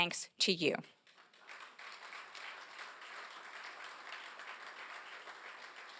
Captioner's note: applause